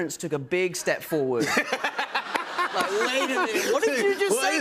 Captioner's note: laughter